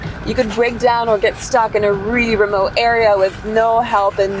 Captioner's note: none